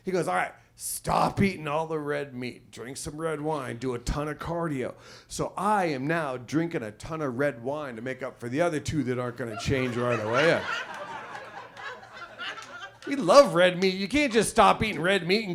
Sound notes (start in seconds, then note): 9.5 audience laughs